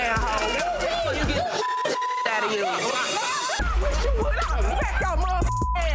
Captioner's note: overlapping chattering; dramatic music; beep